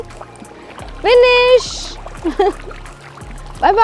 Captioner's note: laugh